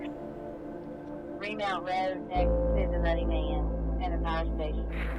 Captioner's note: muffled voices over a radio